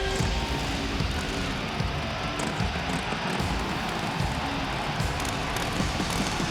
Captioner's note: crowd cheering; upbeat hard rock music